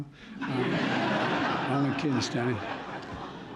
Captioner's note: laughter